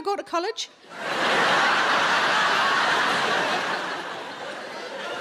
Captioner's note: audience laughing